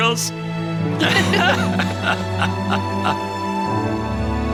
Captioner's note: group laughs